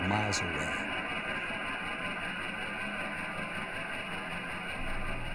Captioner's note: helicopter whirring